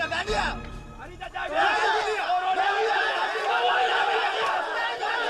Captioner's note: all shouting